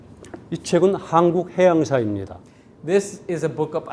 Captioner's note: speaking in Korean